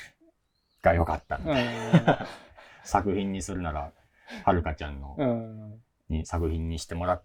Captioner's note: laugh; laugh